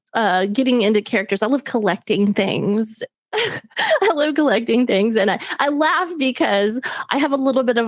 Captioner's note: laughs